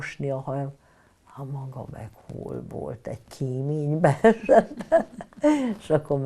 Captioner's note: laughing